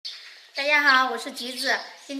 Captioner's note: Mandarin